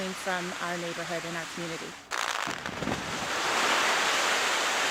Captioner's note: explosion